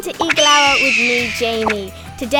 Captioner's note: screams